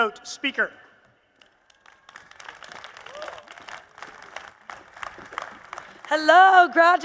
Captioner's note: applause